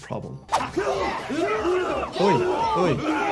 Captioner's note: fighters grunting; audience cheering